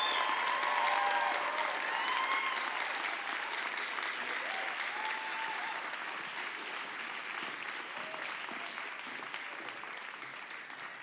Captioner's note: applause